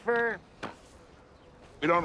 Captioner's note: scoffs